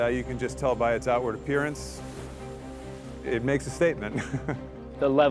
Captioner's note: laughs